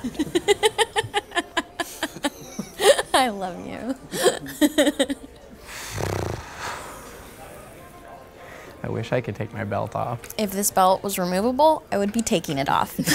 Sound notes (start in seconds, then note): 0.0 laughs; 5.7 man exhales; 12.9 laughs